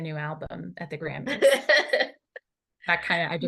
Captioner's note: laughter